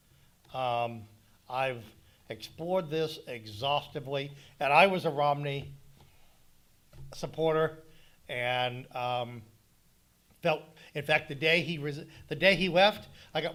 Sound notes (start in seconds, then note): none